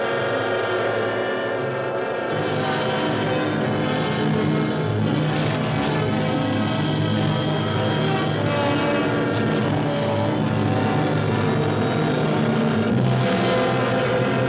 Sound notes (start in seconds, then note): 2.7 machinery whines; 2.7 suspenseful music